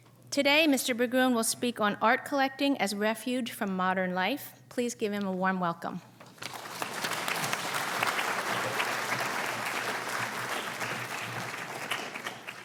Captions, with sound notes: Today Mr. Berggruen will speak on art collecting as a refuge from modern life. Please give him a warm welcome. (audience clapping)